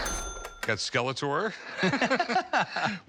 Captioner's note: both laughing